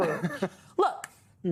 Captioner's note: laughter